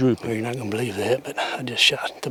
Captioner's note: whispering